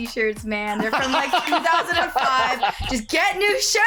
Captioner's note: laughs